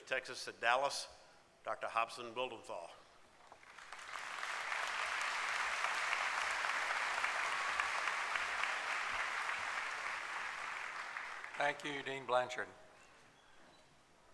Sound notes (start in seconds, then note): 4.3 applause